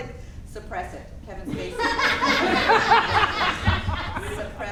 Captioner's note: audience laughing